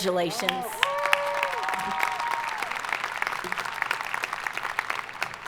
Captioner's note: audience applauding